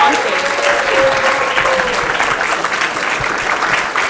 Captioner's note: applause